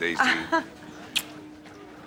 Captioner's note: chuckles